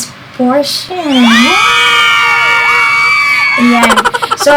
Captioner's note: girls cheering